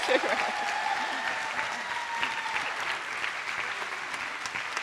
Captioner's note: attendees applauding